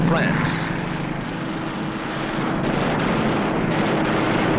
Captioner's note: guns firing